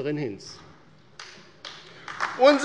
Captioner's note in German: Beifall bei der LINKEN